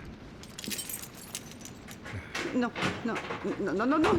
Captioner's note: keys jingling